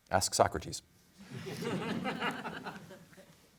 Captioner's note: laughter